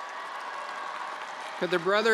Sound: attendees applauding

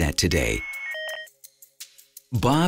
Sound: computer modem squawking

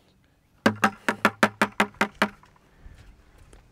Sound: loud tapping

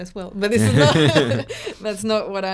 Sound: laughing loudly

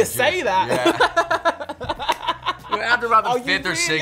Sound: laughs

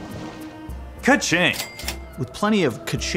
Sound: cash register dings

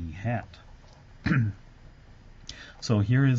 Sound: cough

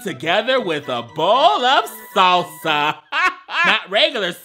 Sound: laughs

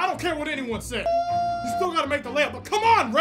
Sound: Razorback Hog Call

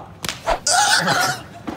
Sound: squealing

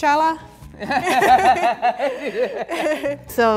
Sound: laughing

